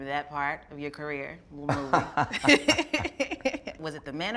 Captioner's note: laughter